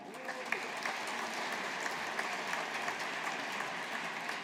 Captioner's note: audience applauding